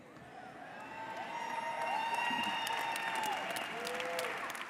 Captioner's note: audience cheers